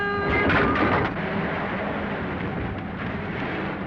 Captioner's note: engine rumbling